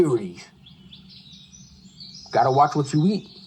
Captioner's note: birds chirping